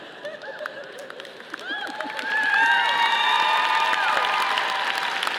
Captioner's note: audience applauding